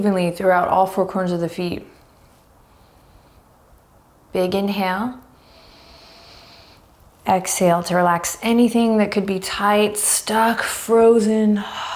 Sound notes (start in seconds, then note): 5.3 deep breaths